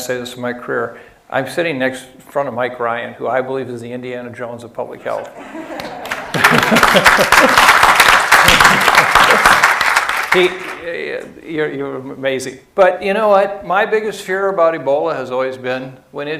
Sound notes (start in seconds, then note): 6.0 applause